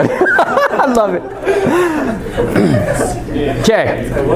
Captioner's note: laughter